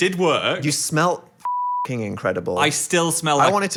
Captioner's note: beeping